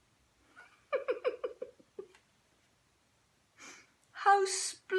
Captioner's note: laughing softly